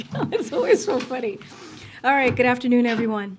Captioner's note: laughs